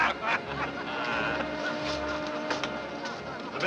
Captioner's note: train steam whistles